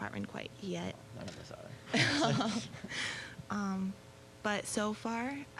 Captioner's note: both laughing